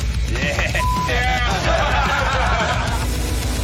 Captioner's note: laughter